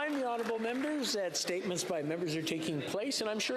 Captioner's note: some Applause